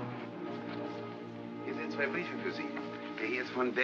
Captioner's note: ominous music; speaking in German